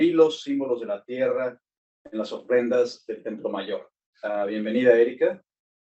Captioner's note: speaking in foreign language